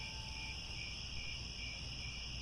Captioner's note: crickets